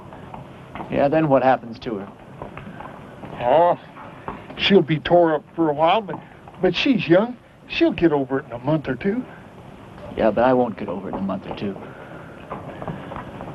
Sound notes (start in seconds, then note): none